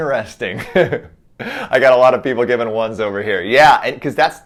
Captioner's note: chuckles